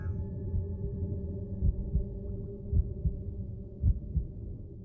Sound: heartbeat thumping

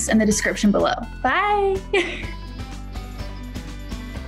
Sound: laughs

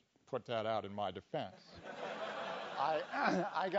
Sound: laugh

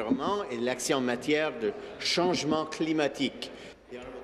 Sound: speaking in French

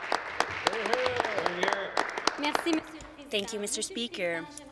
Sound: some Applause

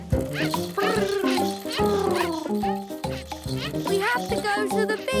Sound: purring

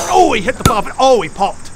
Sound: pop

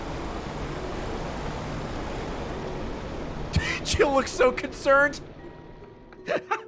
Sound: laughs

